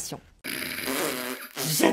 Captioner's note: chuckles